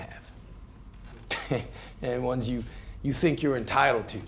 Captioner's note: laughs